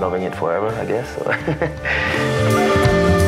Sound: laughs

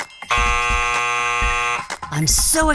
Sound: buzzer

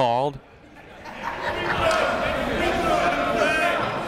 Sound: chatter

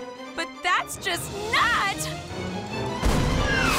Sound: all scream

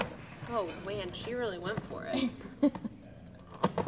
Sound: laughter

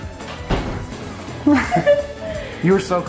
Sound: both laughing

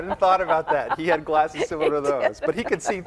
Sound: laughing

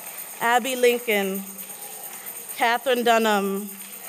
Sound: applause

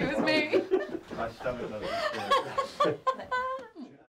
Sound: laughter continues

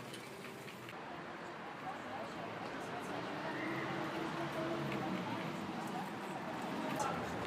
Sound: street buzz

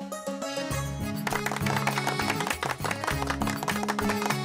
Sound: clapping

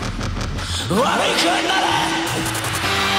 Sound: singer speaks in foreign language; crowd cheering

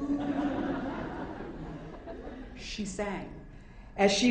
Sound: audience laughing

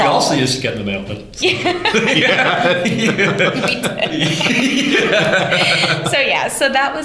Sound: laughter

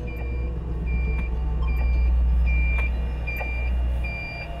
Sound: beeping

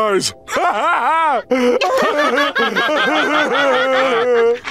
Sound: laughing

